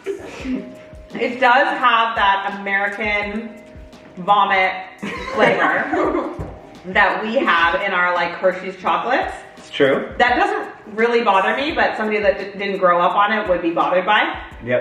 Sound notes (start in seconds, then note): 5.0 family laughs